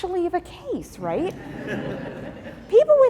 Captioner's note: laughing